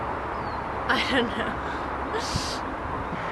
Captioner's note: laughs